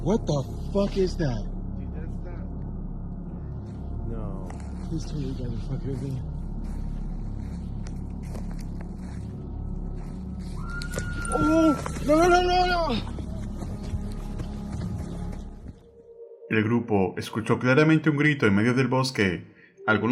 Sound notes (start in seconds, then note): 10.5 scream